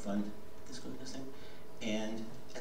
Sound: whispering

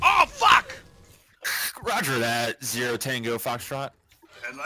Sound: imitates walkie talkie

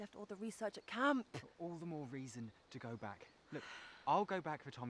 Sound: none

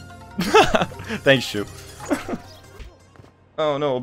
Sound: laughs

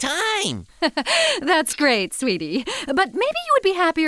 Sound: laugh

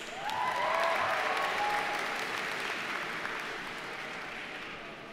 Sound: audience cheers and applauds

